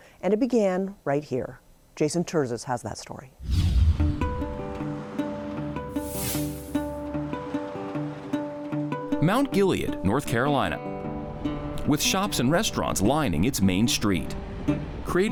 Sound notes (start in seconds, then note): 3.4 calm music; 3.4 air whooshing; 5.9 air whooshing